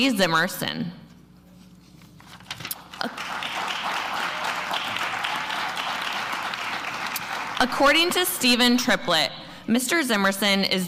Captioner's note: applause